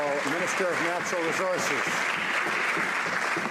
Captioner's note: some Applause